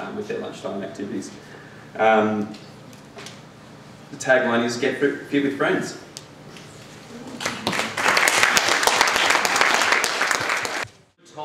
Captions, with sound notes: with their lunchtime activities. The tagline is get fit with friends. (applause)